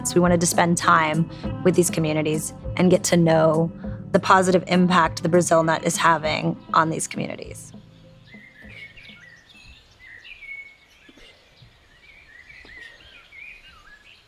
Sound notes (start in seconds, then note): 7.7 birds chirping